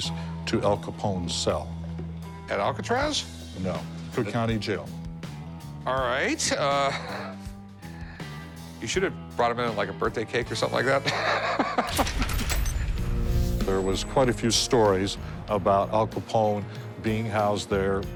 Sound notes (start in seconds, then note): 10.9 both laughing